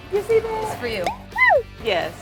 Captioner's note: pop